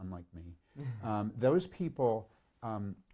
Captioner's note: chuckles